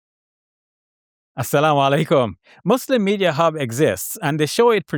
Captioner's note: speaks in foreign language